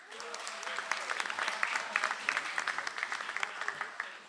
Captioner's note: audience applauds